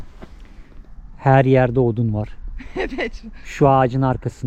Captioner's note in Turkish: kahkaha